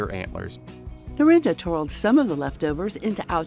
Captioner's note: voiceover